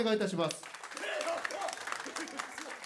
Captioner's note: loud applause